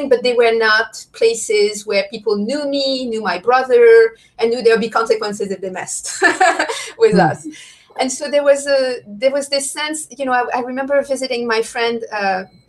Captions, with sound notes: but they were not places where people knew me, knew my brother and knew there'd be consequences if they messed (laughs) with us and so there was this sense, I remember visiting my friend